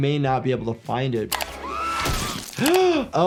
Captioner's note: Petunia screams; doctor gasps